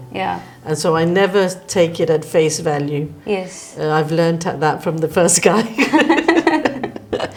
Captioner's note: both laughs